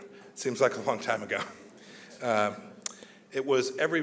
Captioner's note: laughs